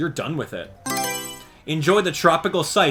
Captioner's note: Mario Selection Sound